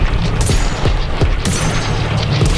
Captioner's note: gun firing